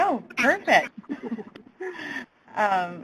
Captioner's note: laughter